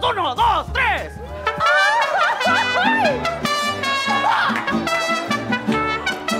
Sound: crowd energetially talks

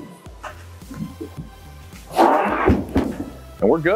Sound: creaking Sound

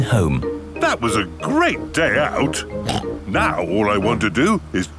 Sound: snorts

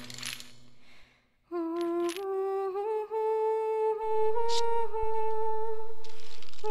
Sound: sweethart hums her lullaby

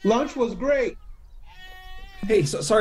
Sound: goats bleating

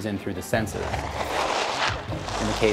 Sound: whooshing

